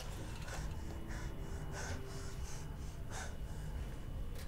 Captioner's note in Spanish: Respirando profundamente